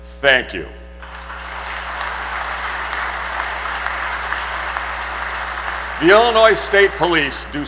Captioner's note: applause